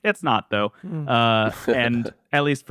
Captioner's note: laughs